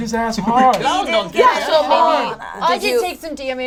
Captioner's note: overlapping chatter